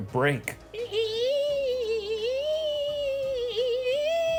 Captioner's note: screeching